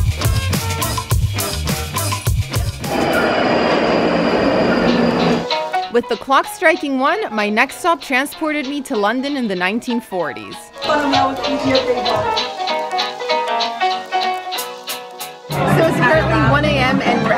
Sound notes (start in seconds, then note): 3.6 train sounds